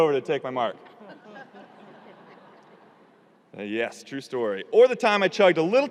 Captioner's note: audience laughing